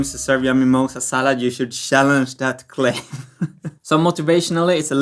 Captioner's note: laughs